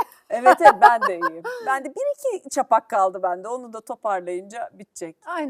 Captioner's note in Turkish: kahkaha